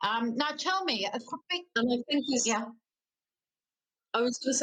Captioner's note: voice breaking out